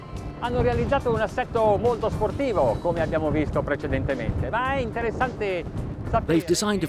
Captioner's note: foreign language